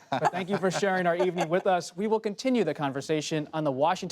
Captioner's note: laughter